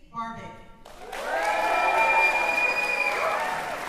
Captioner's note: cheering